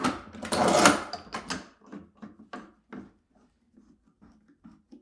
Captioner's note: metal snaps